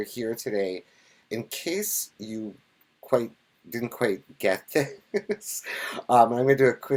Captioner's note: laughs